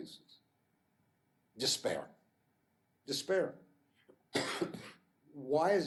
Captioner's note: coughs